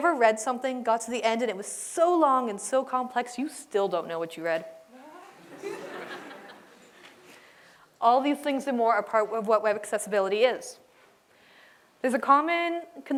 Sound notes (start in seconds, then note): 5.4 laughter